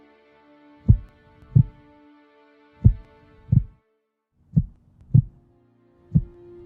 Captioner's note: heartbeats